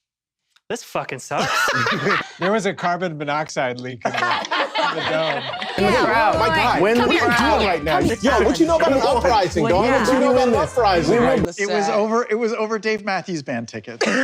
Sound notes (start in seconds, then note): 1.4 laughs hysterically; 4.0 table laughs